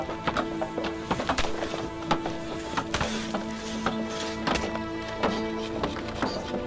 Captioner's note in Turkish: Kütük yontma sesleri